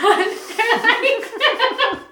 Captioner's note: both laughing